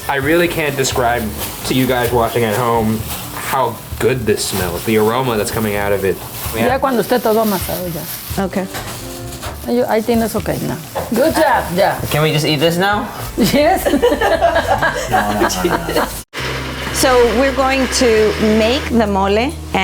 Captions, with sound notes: I really can't describe to you guys watching at home how good this smell, the aroma that's coming out of it. - (speaking in Spanish) - Okay. - (speaking in Spanish) Good job done. - Can we just eat this now? - Yes. (laughing loudly) - So, we're going to make the mole